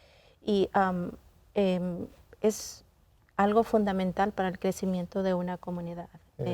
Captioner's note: continues speaking in Spanish